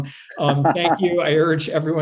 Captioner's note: laughs